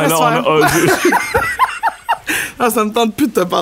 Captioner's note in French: rires